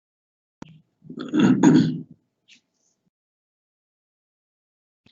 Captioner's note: clears throat